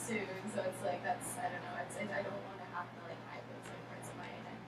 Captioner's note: speaking softly